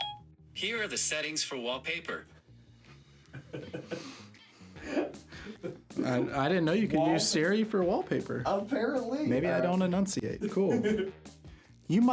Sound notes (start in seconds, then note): 3.3 laughter